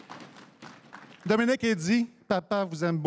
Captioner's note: applaudissements